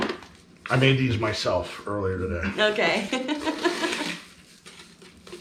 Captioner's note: laughing